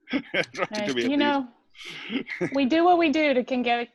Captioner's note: brief laughter